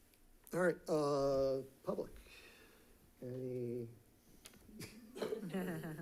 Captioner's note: people laughing